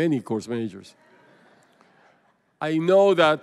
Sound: laughter

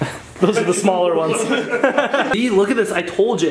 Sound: laughing

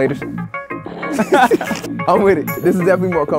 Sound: everyone laughs

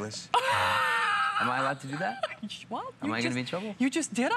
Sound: laughter

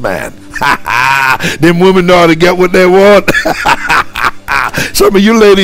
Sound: laughing

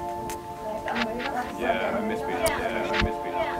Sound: chatter

